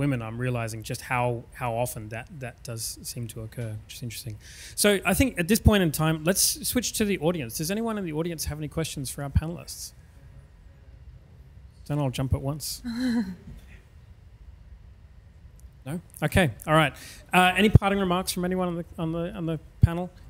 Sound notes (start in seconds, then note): 12.9 laughs